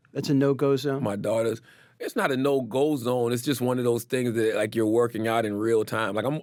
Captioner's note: none